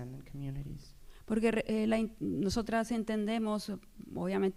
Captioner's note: speaking spanish